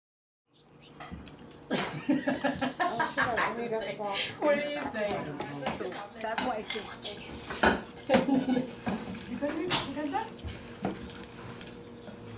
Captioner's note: laughter